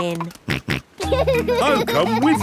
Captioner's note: snorts and laughs